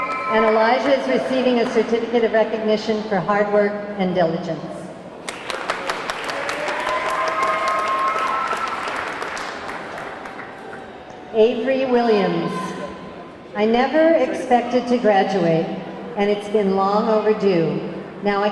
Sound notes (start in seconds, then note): 0.0 audience clamoring; 5.2 audience clapping; 5.6 audience cheering